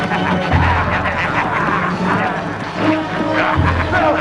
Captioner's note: men laughing